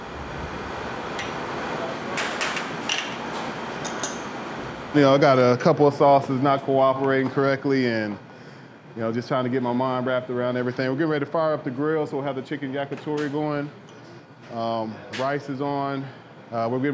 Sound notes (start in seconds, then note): 1.7 dishes clanking